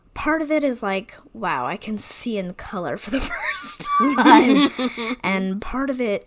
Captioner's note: wheeze laughs